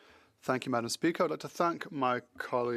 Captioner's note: speaking French